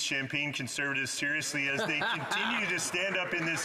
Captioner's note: some Applause; speaking French